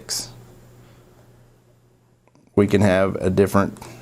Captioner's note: silence